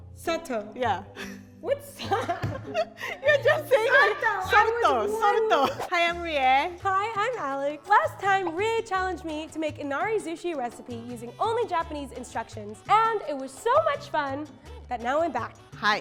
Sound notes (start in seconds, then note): 0.1 speaks in foreign language; 2.0 laughs; 3.8 both speak in foreign language